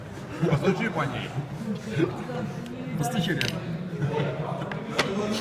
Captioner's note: speaking in foreign language